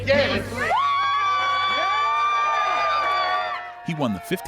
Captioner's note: crowd cheering